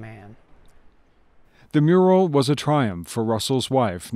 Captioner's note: voiceover